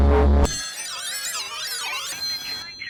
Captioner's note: telephone rings wildly